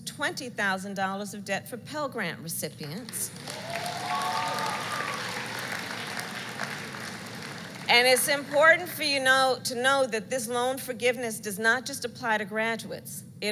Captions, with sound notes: $20,000 of debt for Pell Grant recipients. (Applause.) And it's important for you know -- to know that this loan forgiveness does not just apply to graduates,